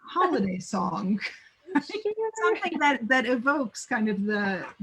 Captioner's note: laughing